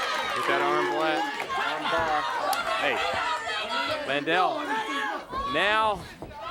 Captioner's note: crowd chatter